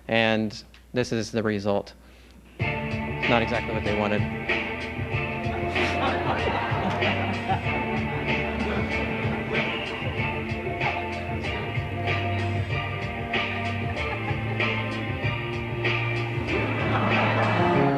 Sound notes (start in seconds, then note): 5.5 laughter